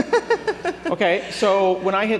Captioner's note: laughter